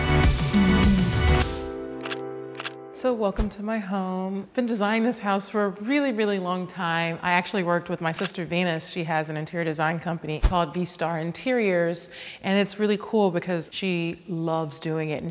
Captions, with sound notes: [camera clicking] So welcome to my home. I've been designing this house for a really, really long time. I actually worked with my sister Venus. She has an interior design company called V Starr Interiors and it's really cool because she loves doing it.